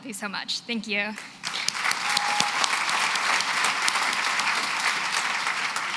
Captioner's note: applause